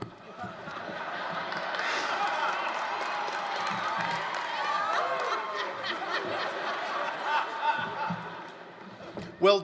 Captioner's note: laughter